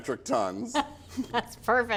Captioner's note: laughs